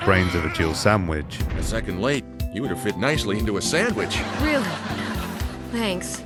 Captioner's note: canned laughter